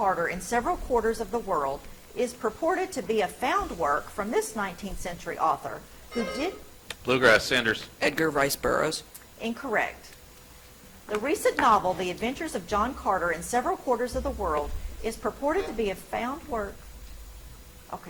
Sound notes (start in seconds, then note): 6.0 buzzer chimes; 17.0 timer buzzes